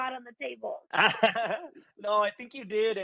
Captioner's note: laughs